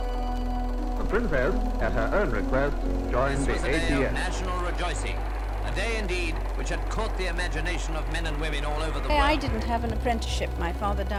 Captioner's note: muffled retro radio broadcast compilation